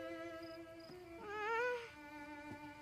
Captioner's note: moans